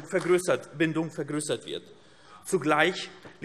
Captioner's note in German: Beifall AfD